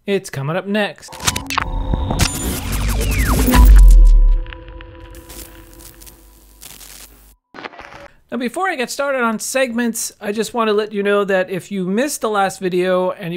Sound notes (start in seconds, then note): 1.1 electronic music; 4.3 radio static